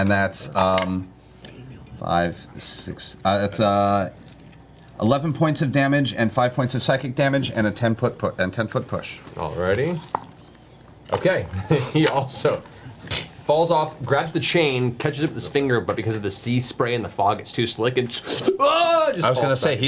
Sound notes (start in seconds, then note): 11.5 snapping sound; 18.1 slipping sound, Wilhelm scream